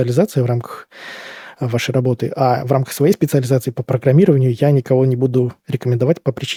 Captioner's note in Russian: вздыхает